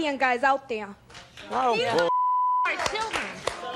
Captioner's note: beeps